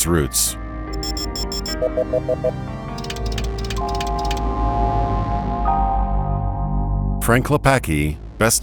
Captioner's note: enhancing noises